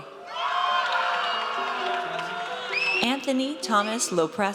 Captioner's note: audience cheers